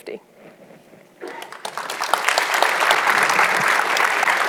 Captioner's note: audience clapping